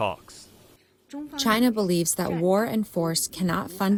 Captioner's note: through translator